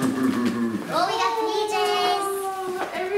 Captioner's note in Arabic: يضحك